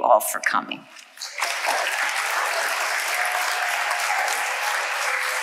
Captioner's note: audience applauding